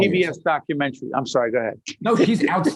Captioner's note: laughing